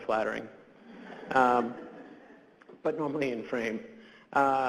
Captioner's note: audience laughs